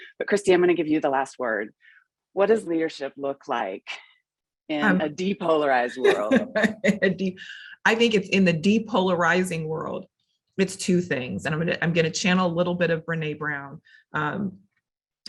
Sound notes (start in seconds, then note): 6.0 laughing